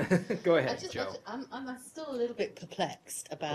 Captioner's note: laughter